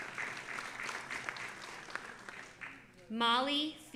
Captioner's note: audience applauding